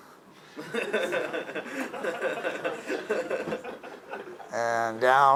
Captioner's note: laughing